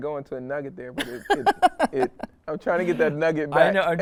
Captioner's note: interviewee laughs